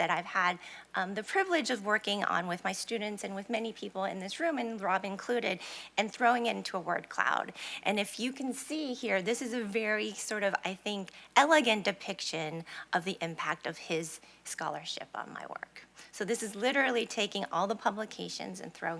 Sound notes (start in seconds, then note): none